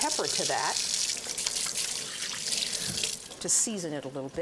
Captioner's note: water running